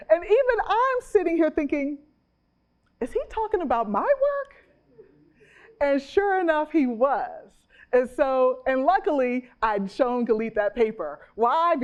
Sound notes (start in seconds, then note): 4.6 chuckles